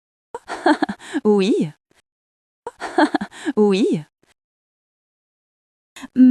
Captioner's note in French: rire